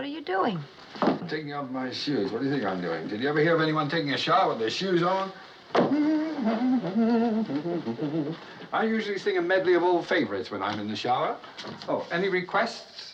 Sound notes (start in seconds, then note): 5.8 humming